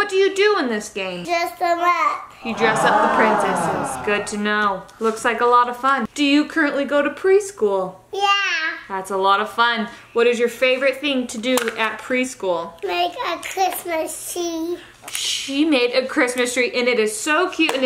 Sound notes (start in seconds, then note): 2.4 audience ahs